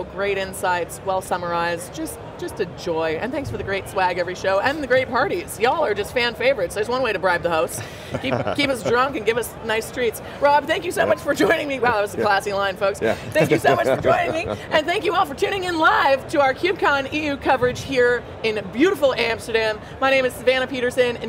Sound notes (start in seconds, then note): 7.7 chuckling; 13.0 laughs